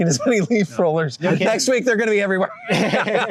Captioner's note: laughter